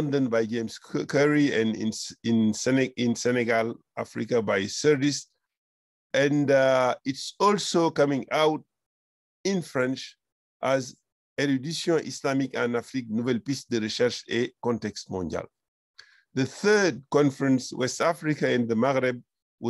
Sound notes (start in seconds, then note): 10.3 french